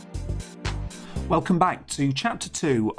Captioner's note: voiceover